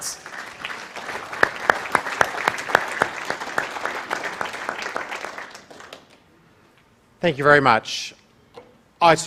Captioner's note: applause